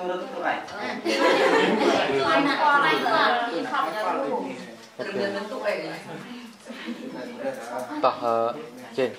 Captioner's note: chattering